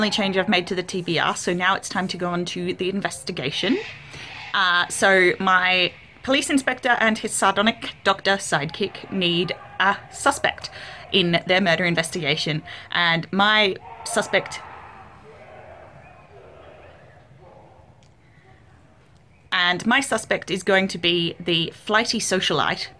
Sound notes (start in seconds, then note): 14.4 random shouting from beyond the hedge